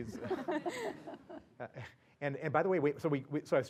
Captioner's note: laugh